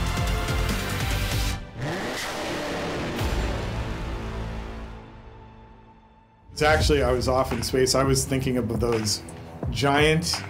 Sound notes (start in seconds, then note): 0.8 engine roars